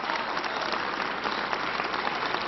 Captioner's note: applause